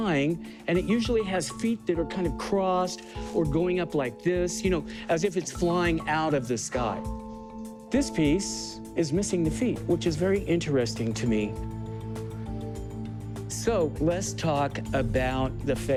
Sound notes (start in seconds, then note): none